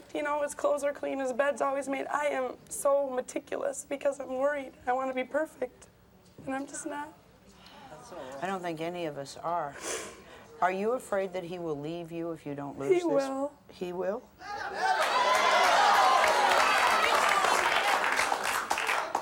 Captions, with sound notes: His clothes are clean, his bed's always made. I am so meticulous because I'm worried. I want to be perfect, and I'm just not. - I don't think any of us are. Are you afraid that he will leave you if you don't lose this? - He will. - He will? (cheering)